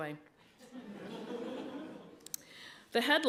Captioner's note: laughter